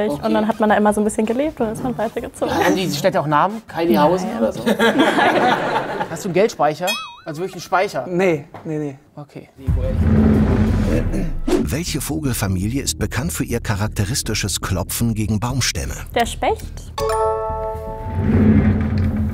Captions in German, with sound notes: Okay. - Dann hat man da bisschen gelebt, und dann ist man weitergezogen. Haben die auch Namen? Kyliehausen oder so? (Lachen) Nein. Hast du 'nen Geldspeicher? - Nee. Okay. (Spannungsvolle Musik) Der Specht.